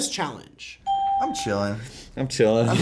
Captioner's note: ding; both laugh